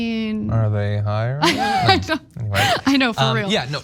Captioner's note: laugh